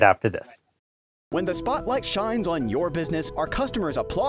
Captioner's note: voice-over